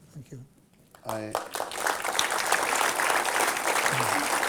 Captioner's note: applause